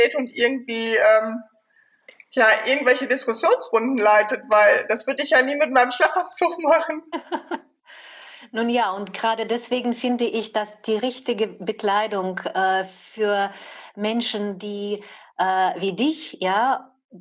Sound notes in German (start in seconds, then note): 7.1 beide lachen